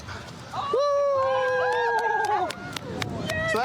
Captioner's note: cheering